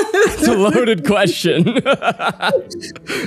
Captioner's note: laughs